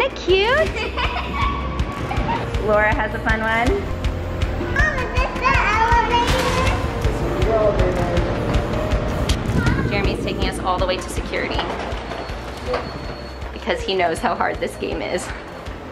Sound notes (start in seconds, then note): 0.6 kids laugh